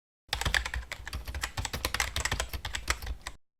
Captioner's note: keyboard typing